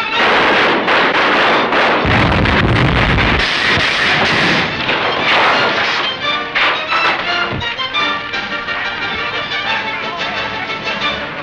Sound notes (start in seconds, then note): 0.0 gun firing; 2.6 bomb exploding; 6.2 dramatic music